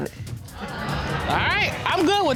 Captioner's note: audience laughing